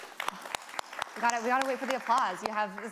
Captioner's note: audience applauding